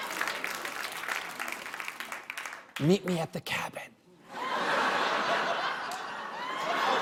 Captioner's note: whispers; laughter; applause